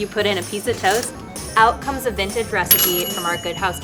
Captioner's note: appliance pings